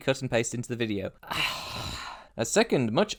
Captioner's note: phlegmy sigh